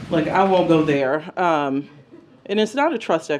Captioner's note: laughter